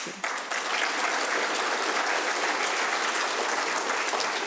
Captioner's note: audience applauds